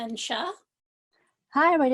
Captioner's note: speaks foreign language